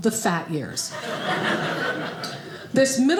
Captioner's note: audience laughing